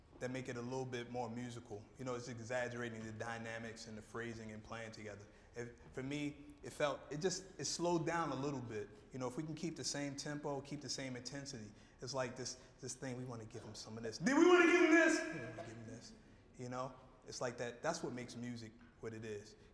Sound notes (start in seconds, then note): 14.2 speaking loudly